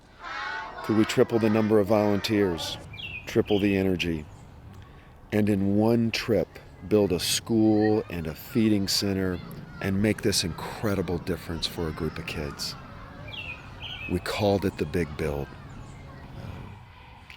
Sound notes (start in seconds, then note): none